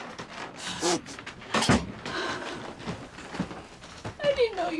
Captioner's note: sniffling